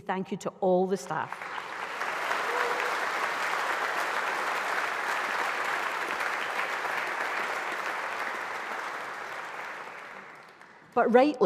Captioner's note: applause